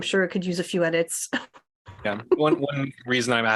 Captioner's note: laughter